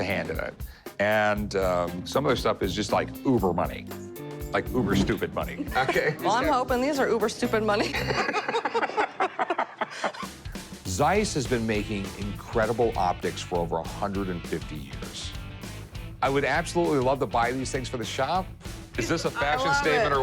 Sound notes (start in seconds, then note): 7.7 laughter